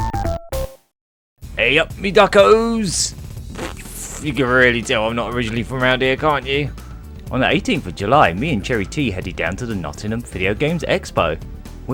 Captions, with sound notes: Hey, up me duckos! [Laughs] You can really tell I'm not originally from around here, can't you? On the 18th of July, me and CherryT headed down to the Nottingham video games expo!